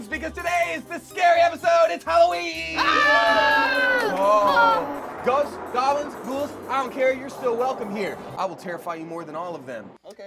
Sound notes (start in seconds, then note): 2.7 screaming